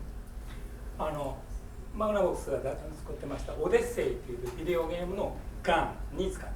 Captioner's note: speaking in foreign language